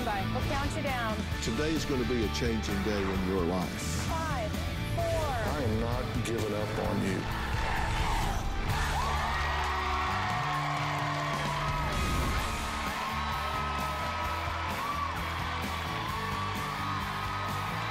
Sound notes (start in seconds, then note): 7.2 crowd chanting "dr. phil!"; 11.6 cheering and applause